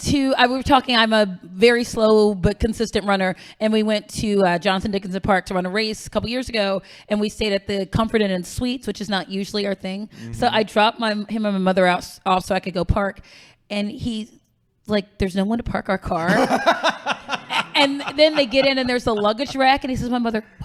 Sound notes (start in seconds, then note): 16.1 laughing; 20.4 whispering